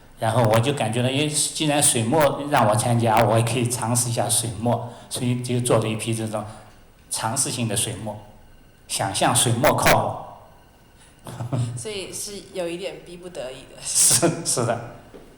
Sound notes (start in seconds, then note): 11.2 laughter; 12.2 Mandarin; 14.3 laughter